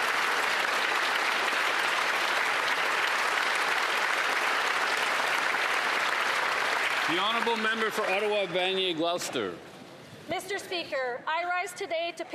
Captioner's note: applause